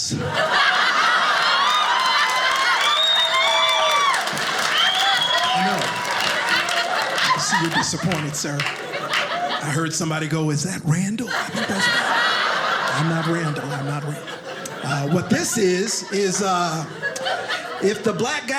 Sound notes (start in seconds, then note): 0.3 audience laughing; 2.0 audience applauding